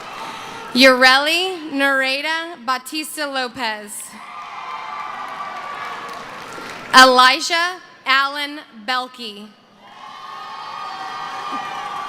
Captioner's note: cheering